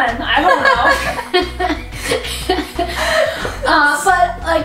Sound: both laugh

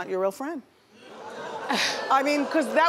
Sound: audience exclaims

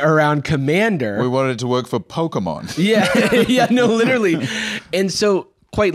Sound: laughing

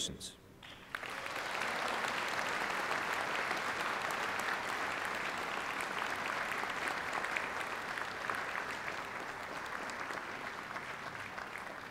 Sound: applause

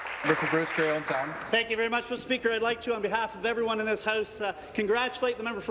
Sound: some Applause

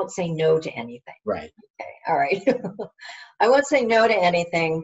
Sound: laughs

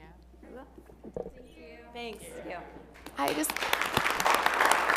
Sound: applause

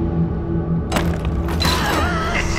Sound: rattle; clank, gasp; evil laughter

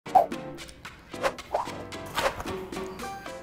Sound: object whooshing

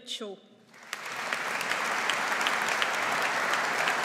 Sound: audience applauds

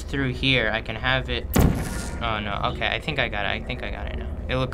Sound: gun zaps

